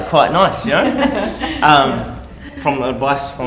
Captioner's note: laughters